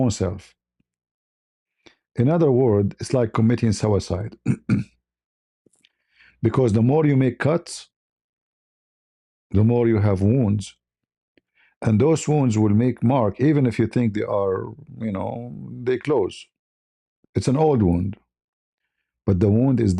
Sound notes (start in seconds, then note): 4.4 berdehem